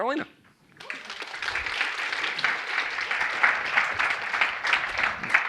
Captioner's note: audience clapping